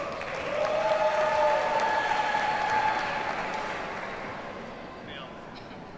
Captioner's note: audience cheers and applauds